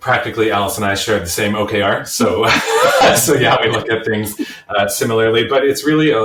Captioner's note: laughs